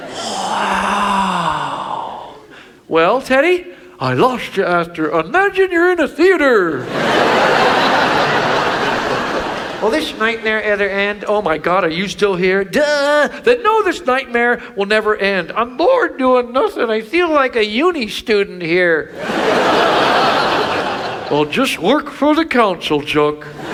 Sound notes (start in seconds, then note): 6.8 audience laughs; 19.1 audience laughs; 23.5 audience laughs